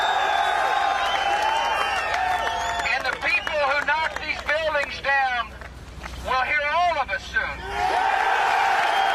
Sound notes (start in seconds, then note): 2.0 applause; 5.5 cheers and applause